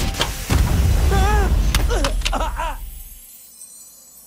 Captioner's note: MechaBot groans; Amato yelps